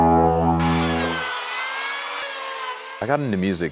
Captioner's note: buzzes lips; saw buzzing